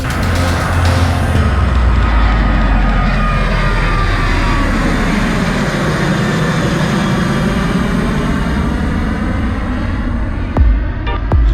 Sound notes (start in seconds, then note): 0.0 plane taking off